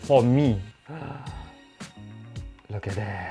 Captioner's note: gasps